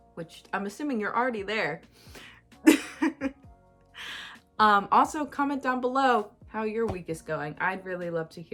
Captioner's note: chuckles